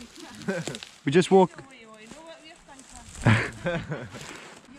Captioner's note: cackles